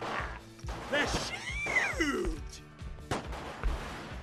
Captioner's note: guns fire; laughs; guns fire